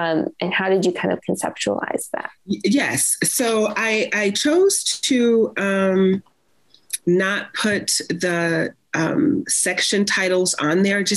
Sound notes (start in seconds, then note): none